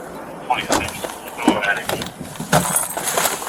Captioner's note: radio chatter